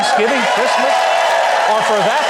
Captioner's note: clapping and cheering